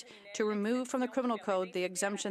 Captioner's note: speaking French